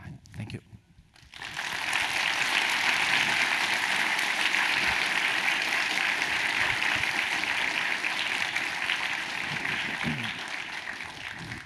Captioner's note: applause